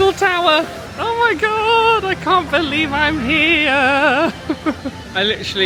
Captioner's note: laughing